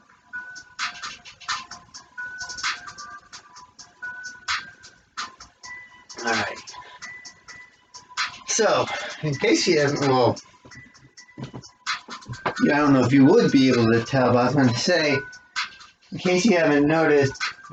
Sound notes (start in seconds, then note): 8.8 sighs